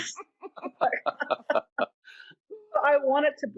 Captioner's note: laughing